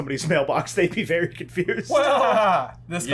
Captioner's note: laughter